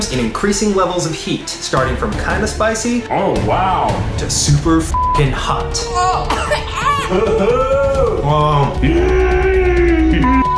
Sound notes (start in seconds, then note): 4.9 beep; 6.0 coughing and screaming; 10.2 beep